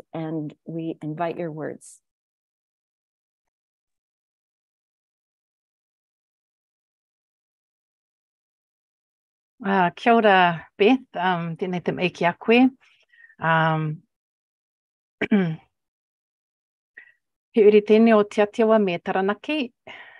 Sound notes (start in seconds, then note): 9.9 speaking in indigenous language